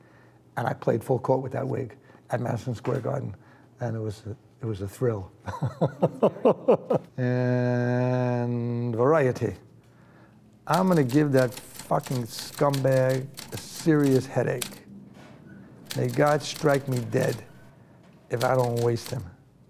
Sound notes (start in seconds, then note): 5.5 laughing